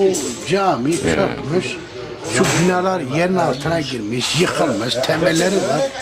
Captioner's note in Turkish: boğazını temizler